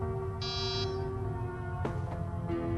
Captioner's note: door buzz